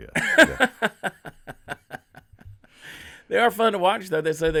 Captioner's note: laughing